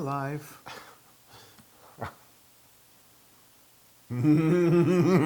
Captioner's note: laugh